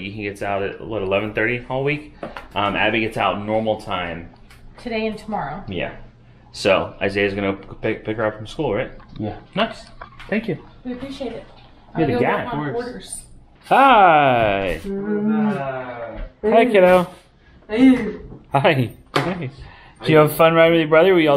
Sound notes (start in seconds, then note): 14.4 moans